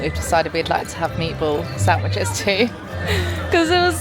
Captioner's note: chuckling